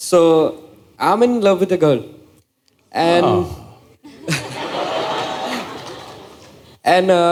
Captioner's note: laughter